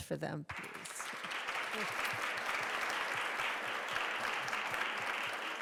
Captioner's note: audience applauding